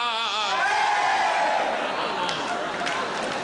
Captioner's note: Crowd cheers Padua